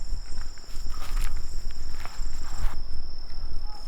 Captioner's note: crickets chirping